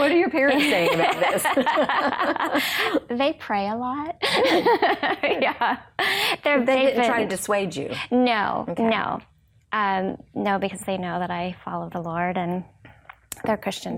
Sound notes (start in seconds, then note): 0.6 both laughing; 5.1 laughs